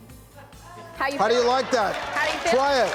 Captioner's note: audience applauds